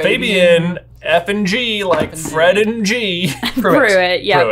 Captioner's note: laughing